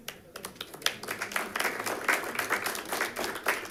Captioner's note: applause